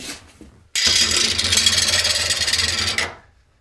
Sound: rattling noises

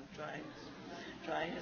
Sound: laughing; laughs

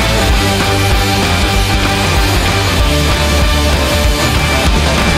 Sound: none

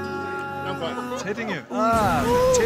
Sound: starts to giggle 🥴

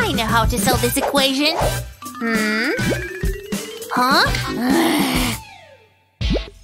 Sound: making angry sounds

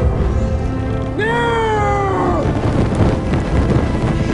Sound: screams

